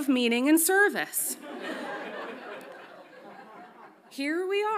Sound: audience laughs

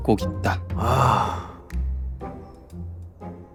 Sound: phew

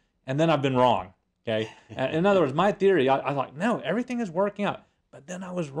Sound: laugh

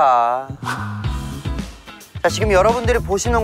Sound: swoosh

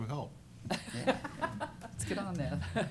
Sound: laughter

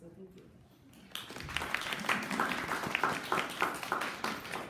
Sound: audience applauding

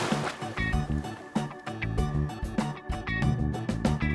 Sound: water splashing

